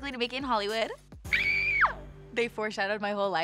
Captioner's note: screams